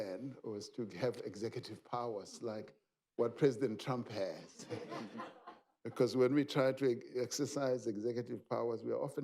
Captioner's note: laughter